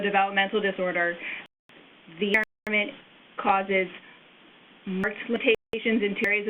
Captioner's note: audio skips